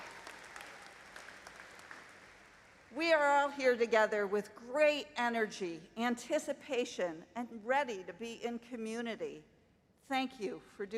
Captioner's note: applause